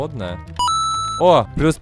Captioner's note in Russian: Звук монеты из игры "Super Mario Bross"